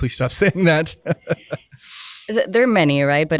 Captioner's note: laughs